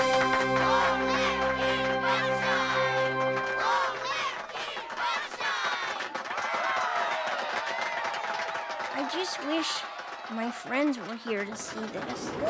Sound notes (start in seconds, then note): 6.4 cheering and clapping